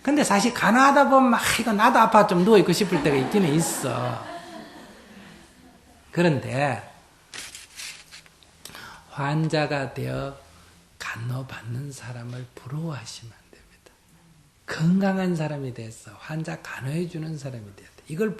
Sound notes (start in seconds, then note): 4.7 audience Laughter